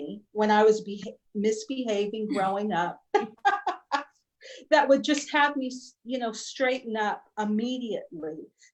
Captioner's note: laughter